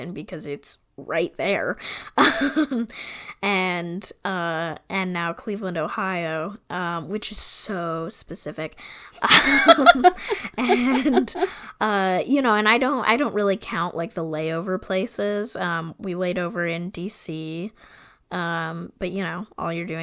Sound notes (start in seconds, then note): 9.2 laugh